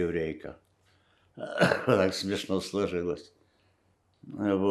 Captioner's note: coughing